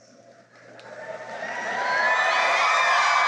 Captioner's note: cheering and applause